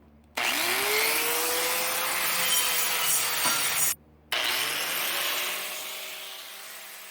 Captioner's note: angle grinder starting up